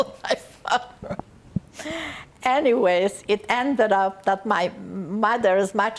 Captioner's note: laughing